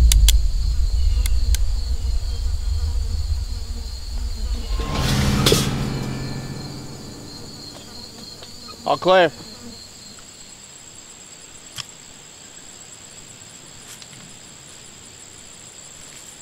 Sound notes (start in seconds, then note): 0.3 gun clicks; 4.0 dramatic music; 10.4 insects chirring